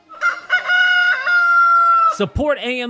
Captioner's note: rooster crowing